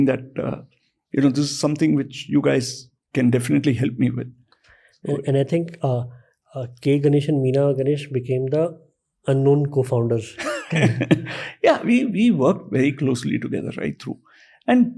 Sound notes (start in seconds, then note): 10.3 chuckles